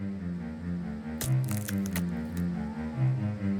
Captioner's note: wood creaking